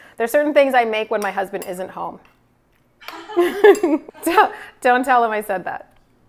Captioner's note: chuckles